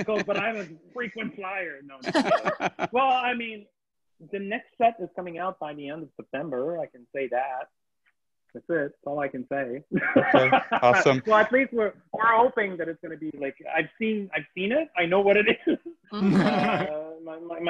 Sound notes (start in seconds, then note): 2.0 moderators laugh; 10.1 laughs; 16.1 moderators laugh